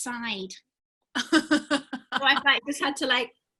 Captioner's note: laughing